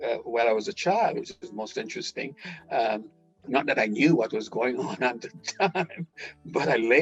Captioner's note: laughing